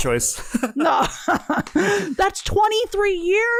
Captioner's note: laughs